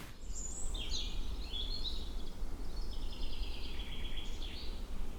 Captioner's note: birds chirping